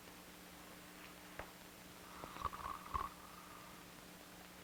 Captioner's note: heavy snoring